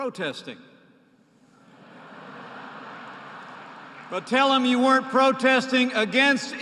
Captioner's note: laughter